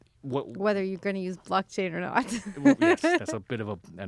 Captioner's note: laughs